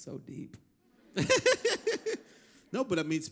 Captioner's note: laughter